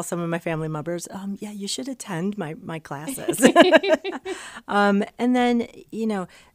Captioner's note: laughs